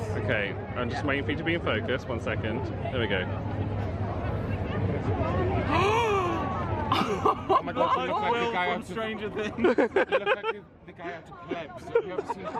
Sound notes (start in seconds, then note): 6.1 friends gasp